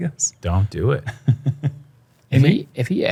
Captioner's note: chuckles